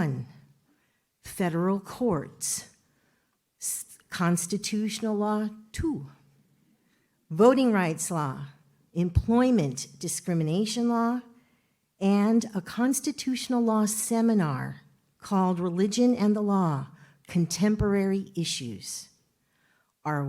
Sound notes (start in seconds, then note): none